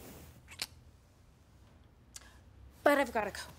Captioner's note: lips smacking